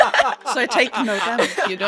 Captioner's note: laughter